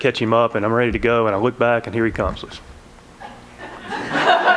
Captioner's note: laughter